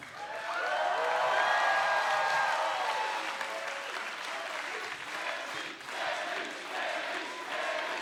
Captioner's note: cheers and applause; fans chanting